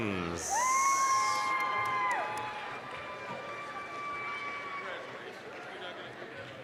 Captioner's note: applause, cheering